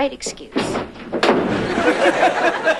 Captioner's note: door opens; door closes; laughter